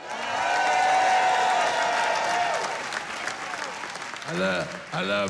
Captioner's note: cheering